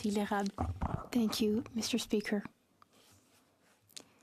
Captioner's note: speaking French